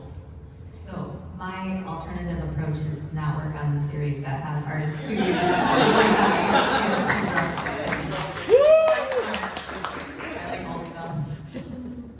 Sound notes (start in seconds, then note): 8.1 applause